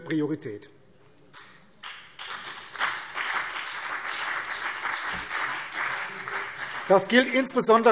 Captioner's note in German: Beifall BÜNDNIS 90/DIE GRÜNEN und CDU